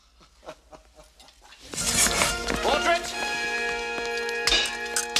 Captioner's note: laughs